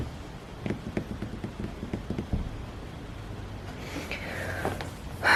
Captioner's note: fingers tapping on table